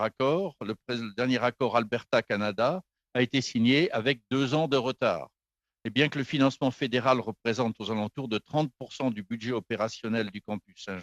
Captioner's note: speaking French